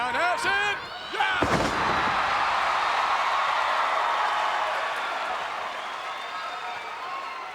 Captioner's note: crowd cheering; bodies thud